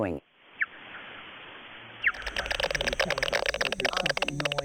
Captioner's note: bats squeaking